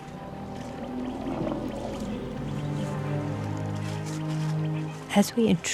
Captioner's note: rumbling